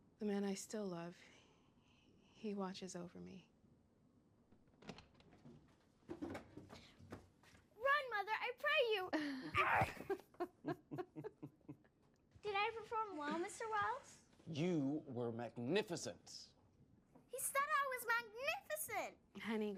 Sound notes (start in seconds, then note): 4.7 door opens; 9.6 chuckling